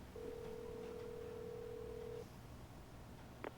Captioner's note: phone line trilling